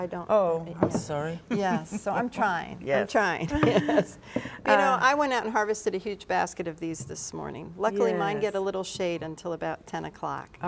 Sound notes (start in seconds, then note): 3.4 laughs